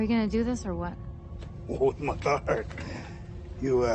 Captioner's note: people speaking foreign language